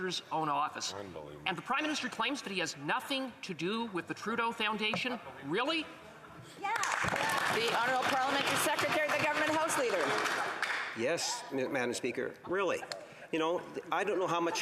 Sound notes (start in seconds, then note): 11.8 applause